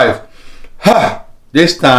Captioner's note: exhales